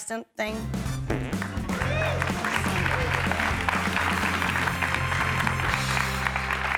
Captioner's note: farting, game show music and applause